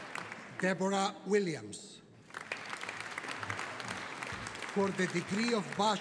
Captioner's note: audience applauding